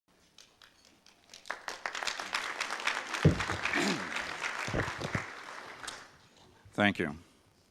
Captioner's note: audience applause